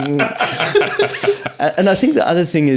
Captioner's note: laughing